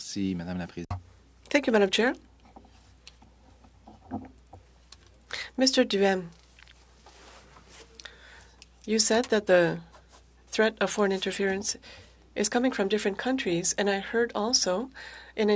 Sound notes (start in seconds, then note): 5.0 speaking French